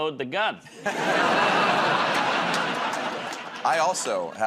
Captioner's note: laughter